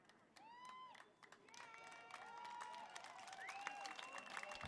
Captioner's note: applause; cheering